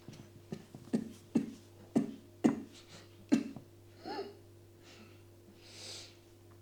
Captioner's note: coughs